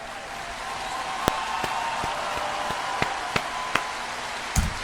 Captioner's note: claps